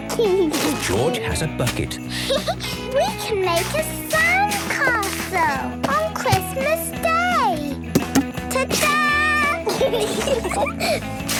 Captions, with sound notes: (giggling) George has a bucket. (Peppa laughing) - We can make a sandcastle on Christmas day! - Ta-dah! (laughter)